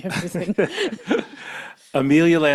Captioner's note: laughs